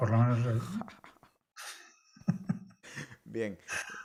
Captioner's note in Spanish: risas